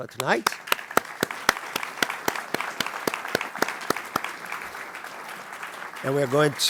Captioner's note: applause